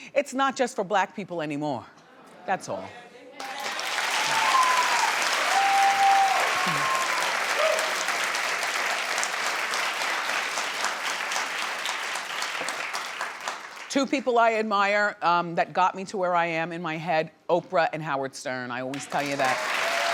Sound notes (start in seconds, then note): 3.4 audience cheering